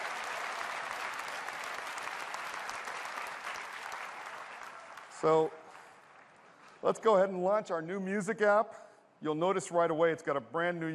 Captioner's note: cheers and applause